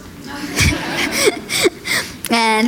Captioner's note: laughter